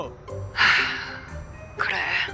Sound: sigh

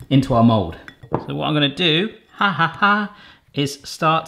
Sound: laughing

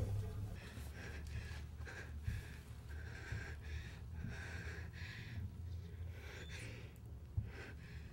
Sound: breathing

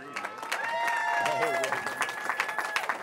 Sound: cheering

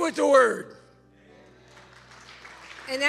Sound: congregation applauds

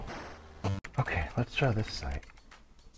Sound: keyboard typing

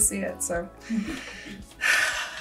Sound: sighs

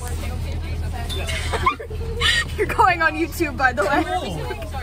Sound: me laughing

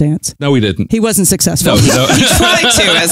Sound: laughs

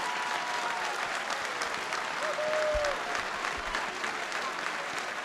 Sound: applause and cheering

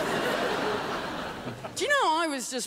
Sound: crowd laughs

